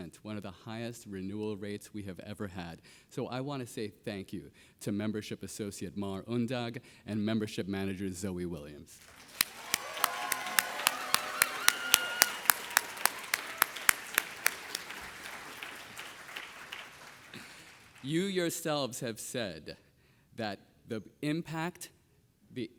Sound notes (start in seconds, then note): 9.3 audience applauding